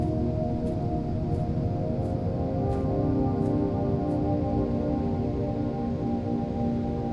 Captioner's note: footsteps